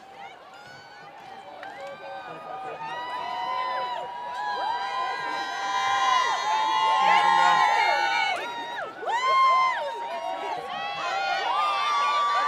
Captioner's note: applause